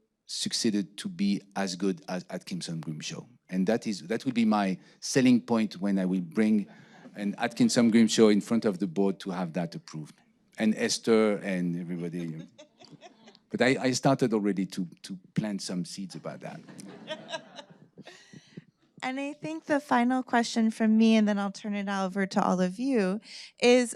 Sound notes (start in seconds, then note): 16.0 audience laughing